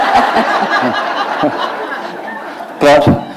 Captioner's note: laughter